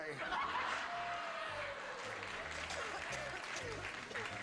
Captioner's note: laughter